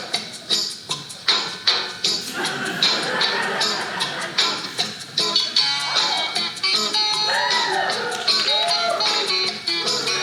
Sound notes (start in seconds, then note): 2.2 audience laughing; 7.2 audience cheering